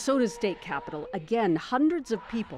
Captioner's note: chanting